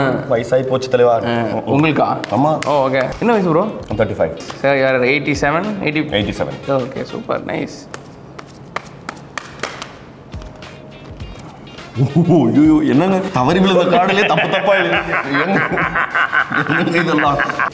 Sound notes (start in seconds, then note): 7.8 shuffling Cards; 14.0 laughs